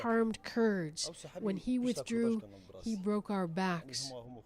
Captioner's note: speaking foreign language